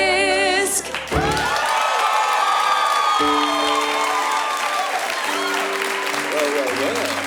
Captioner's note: applause